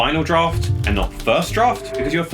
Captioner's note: typewriter clacking